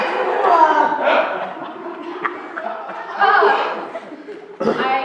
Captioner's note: laughter